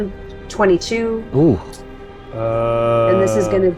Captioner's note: winces